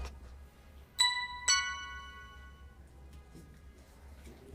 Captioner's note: alarm beeps